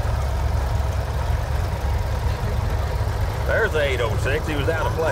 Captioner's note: revving continues